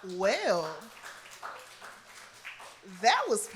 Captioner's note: applause